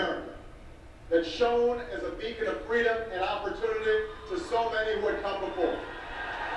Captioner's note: audience cheers